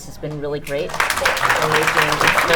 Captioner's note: audience clapping